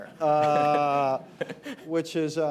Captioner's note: laughter